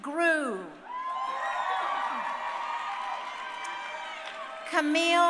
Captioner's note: crowd cheering